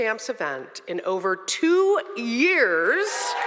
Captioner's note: audience cheering